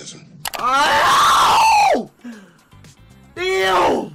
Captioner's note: Speedy screaming